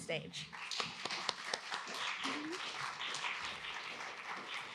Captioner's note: applause